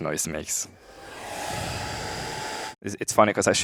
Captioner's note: whooshing